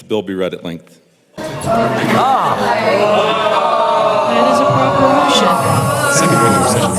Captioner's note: moans and groans